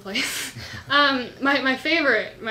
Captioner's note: laughs